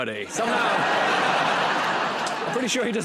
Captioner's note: laughter